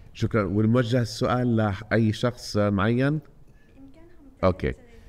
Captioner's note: speaking foreign language